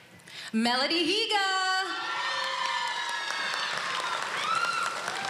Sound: cheering

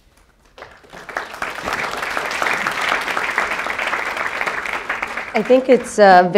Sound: applause

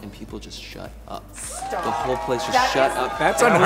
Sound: audience cheering

